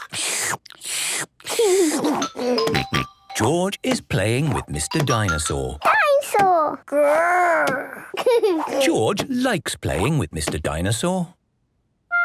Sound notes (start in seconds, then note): 0.0 slurping; 1.6 giggles; 7.9 giggles